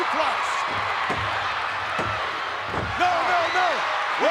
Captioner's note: hand thudding